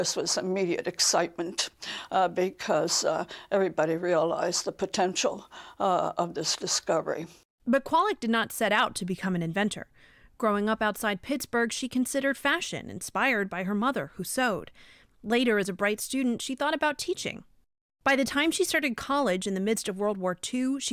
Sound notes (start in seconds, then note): 8.0 voice-over